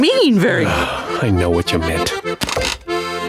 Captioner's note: sighing